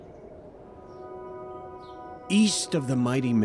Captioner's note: wind blows